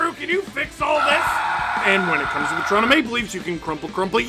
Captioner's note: screaming